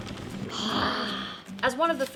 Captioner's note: feral wheeze